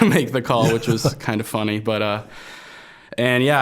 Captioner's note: both chuckling